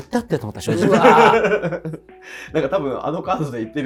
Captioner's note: laughing